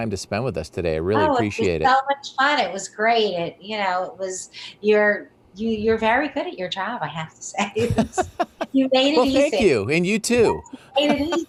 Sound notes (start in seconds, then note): 7.8 laughs